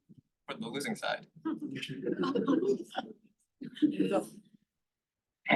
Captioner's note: laughter